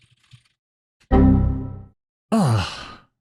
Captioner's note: error warning sound effect